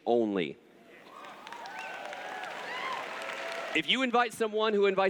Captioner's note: cheers